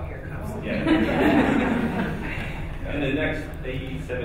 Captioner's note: laughing